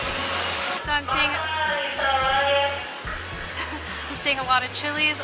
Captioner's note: intercom announcement in Spanish